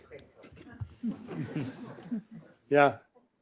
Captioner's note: laughter